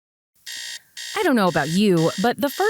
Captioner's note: alarm beeping